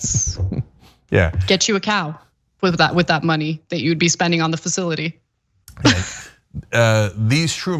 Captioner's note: laugh